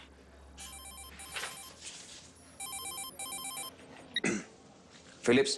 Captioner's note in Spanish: Suena el celular